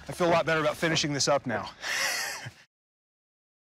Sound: chuckles

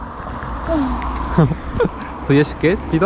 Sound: struggling

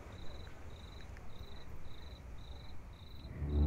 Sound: crickets; ominous music

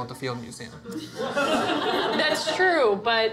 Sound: audience laughter

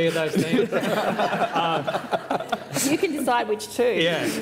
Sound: laughter

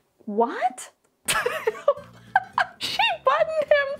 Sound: laughing

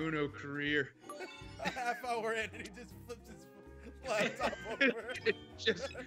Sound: laugh

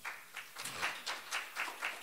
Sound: applause

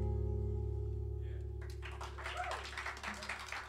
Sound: ending notes fade; cheers and applause

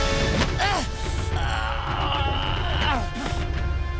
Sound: groaning

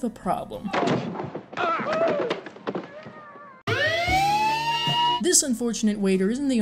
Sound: siren with playing in background

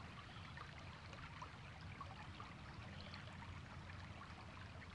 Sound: stream trickling

